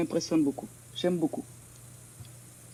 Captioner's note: speaks in French